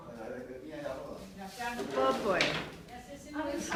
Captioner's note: speaking foreign language